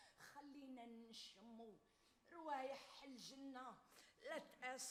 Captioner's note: woman speaks Arabic